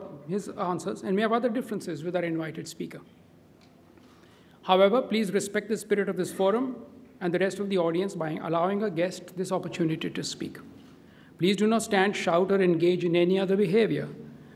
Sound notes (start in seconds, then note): none